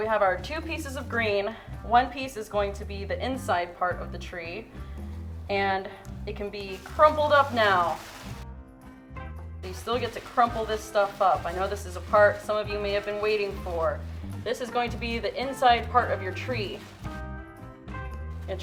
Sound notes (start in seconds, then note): 6.6 paper crumpling; 17.0 upbeat music